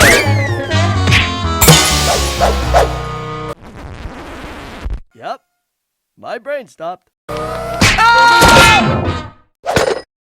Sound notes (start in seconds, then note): 3.6 record scratch